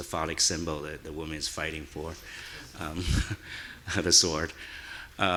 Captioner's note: chuckles